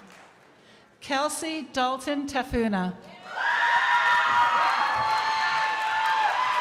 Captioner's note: crowd applauding